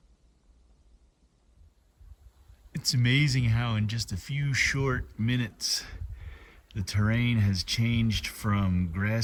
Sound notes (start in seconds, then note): 0.0 wind noise